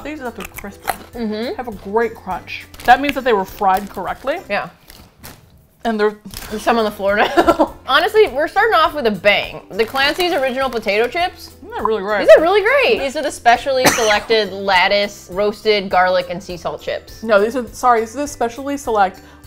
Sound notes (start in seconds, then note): 7.2 laughs; 12.1 mouth full